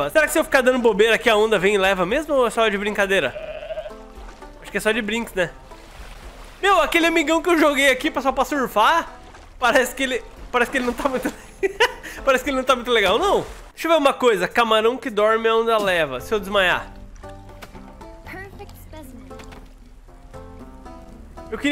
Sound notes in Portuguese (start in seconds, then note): 11.2 risos